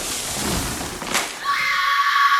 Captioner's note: plant strangling noises; shrill scream